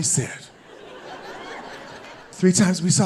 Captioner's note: audience laughing